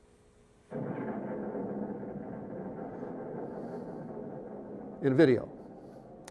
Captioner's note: rumbling, exploding